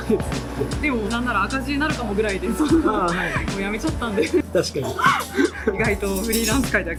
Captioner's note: laughs